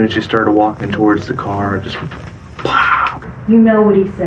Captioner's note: imitates gunshot